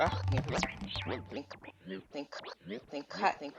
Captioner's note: voice rewinds